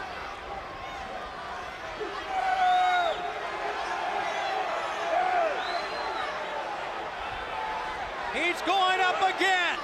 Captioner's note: crowd cheering